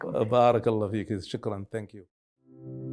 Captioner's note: speaking Arabic